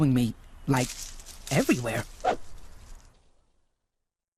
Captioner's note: leaves rustling